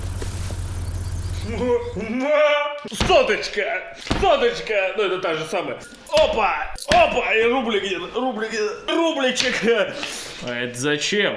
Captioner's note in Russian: шелест; стук; шмяк